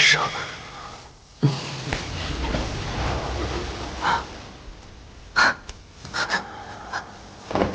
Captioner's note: Shen Jianqing chuckles softly